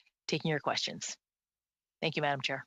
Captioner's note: speaking French